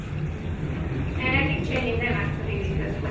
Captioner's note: speaking faintly